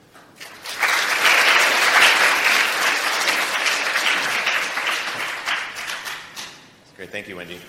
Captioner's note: applause